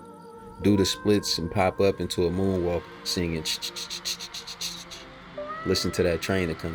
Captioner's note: sound of a steam train engine